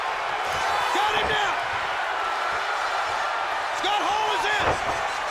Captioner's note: body thudding